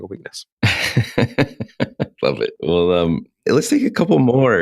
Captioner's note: laughs